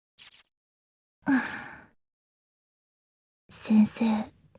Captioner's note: breathe